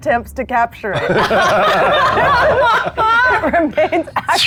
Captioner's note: players laughing